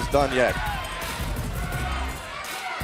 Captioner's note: crowd chatter